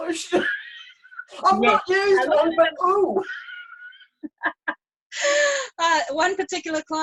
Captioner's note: laughs